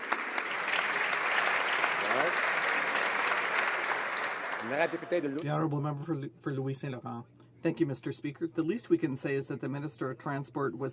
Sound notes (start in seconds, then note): 3.1 some Applause